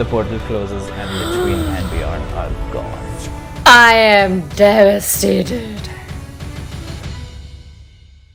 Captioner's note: gasp